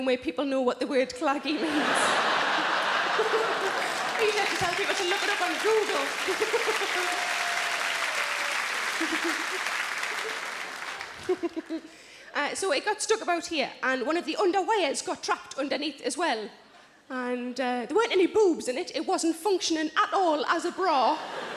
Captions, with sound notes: where people know what the word claggy means. (audience laughing), I usually to tell people to look it up on google. (laughing) (audience applauding) So it got stuck about here and one of the underwires got trapped underneath as well. And, there weren't any boobs in it, it wasn't functioning at all as a bra.